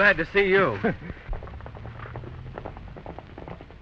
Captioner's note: chuckles